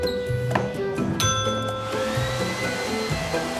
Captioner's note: ding